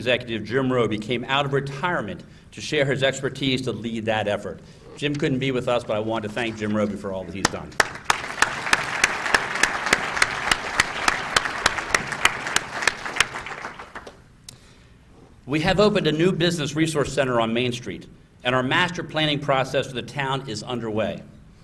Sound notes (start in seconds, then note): 5.4 applause